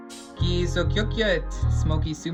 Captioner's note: speaking in foreign language